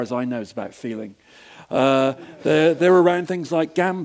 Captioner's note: laugh